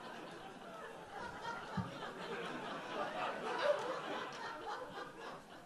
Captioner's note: audience laughs